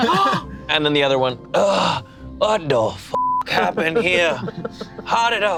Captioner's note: group laughs; beep